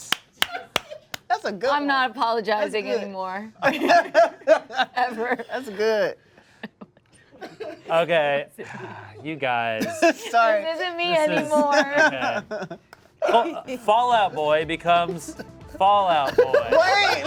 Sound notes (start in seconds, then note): 0.0 claps; 4.3 laughs; 7.2 laughs; 9.2 sighs; 11.2 laughs